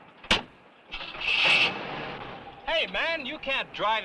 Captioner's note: engine cranks